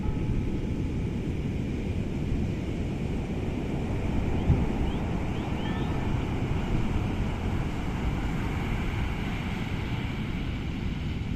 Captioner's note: ocean sounds & church bells